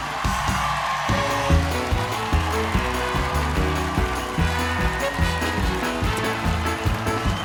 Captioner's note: cheers and applause